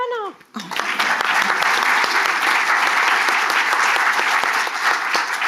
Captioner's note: audience applauding